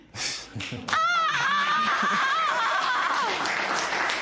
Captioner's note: applause